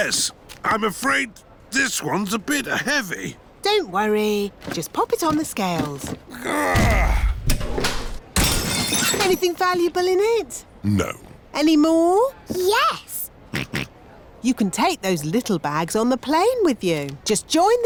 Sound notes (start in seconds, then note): 6.3 grunts; 8.4 crashes; 13.6 snorts